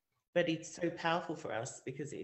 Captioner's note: none